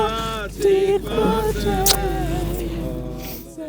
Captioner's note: kiss